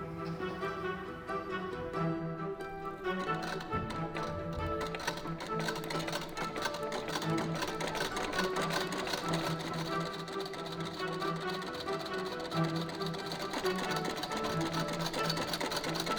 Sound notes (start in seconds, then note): 3.3 needle tapping